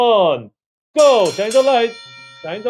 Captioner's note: bell ringing